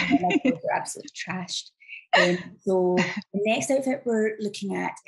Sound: laughs

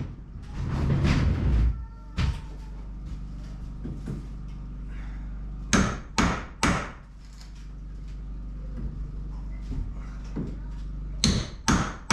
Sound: hammering

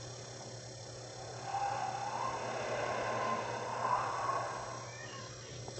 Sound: wind howling; whoosh

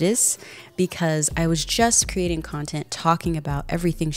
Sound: none

